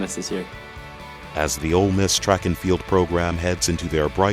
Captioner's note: voiceover